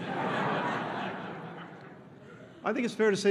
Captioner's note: laughter